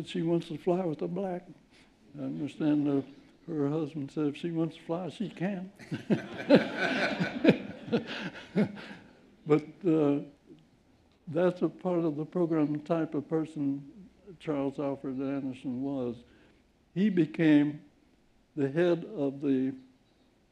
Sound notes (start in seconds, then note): 5.8 laughter